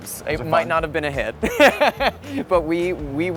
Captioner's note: laughs